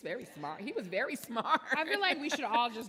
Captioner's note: laughs